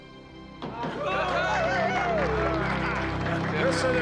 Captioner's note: cheering; applause continues